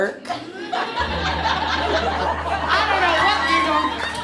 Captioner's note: audience laughs